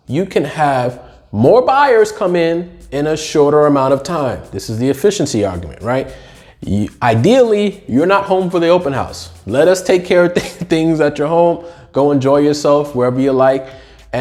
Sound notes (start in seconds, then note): 10.3 chuckles